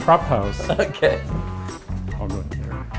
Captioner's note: laughing